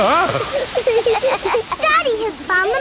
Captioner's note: laughing